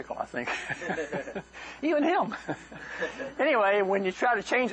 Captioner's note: laughter